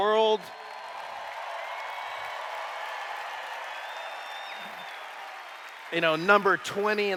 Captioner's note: cheers